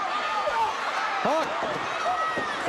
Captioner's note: crowd cheering